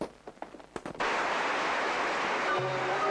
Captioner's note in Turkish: alkiş sesleri̇